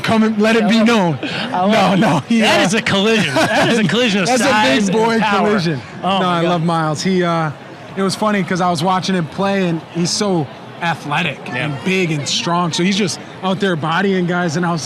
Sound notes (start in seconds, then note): 0.6 laughing